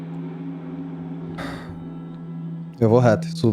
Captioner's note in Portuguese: Suspiro